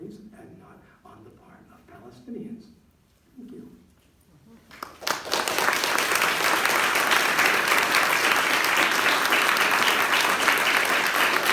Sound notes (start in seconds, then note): 4.6 applause